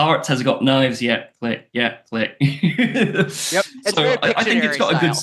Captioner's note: laughs